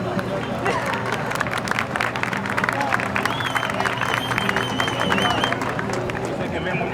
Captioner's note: crowd applause